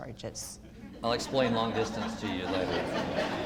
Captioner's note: audience laughter